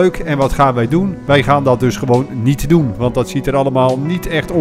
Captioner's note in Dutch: Voiceover